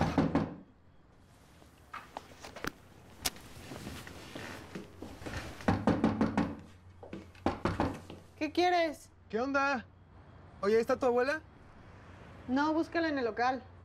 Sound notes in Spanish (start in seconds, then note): 0.0 toques en la puerta; 5.5 toques en la puerta